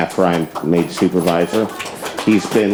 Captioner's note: audience applauds